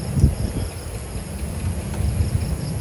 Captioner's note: cricket hissing sound